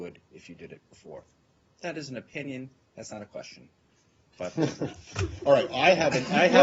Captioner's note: laughter